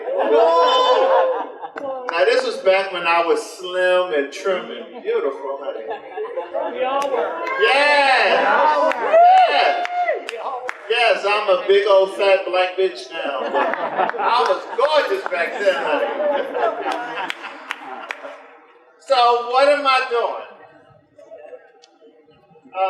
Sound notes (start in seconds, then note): 12.8 audience laughs; 17.2 general laughter